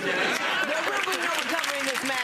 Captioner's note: audience laughing